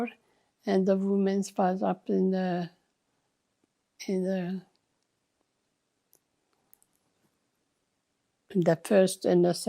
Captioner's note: pauses 6 seconds